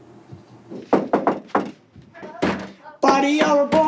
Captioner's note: knocking on door